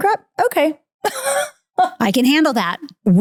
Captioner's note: laughing